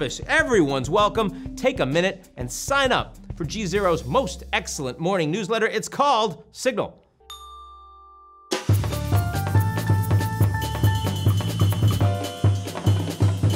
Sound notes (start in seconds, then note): 7.2 ding; 7.3 upbeat music